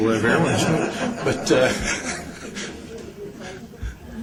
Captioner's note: laughter